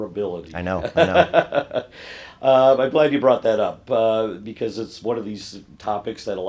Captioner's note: laugh